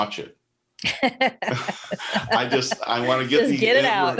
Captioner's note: laughs